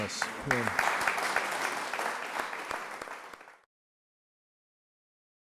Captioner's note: audience applauding